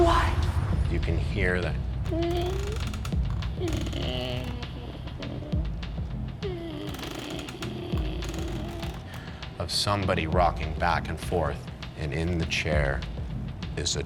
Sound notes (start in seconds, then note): 2.0 rocking chair creaks